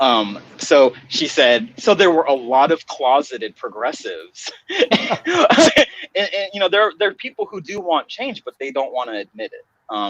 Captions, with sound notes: So she said, so there were a lot of closeted progressives. (laughing) And there are people who do want change but they don't wanna admit it.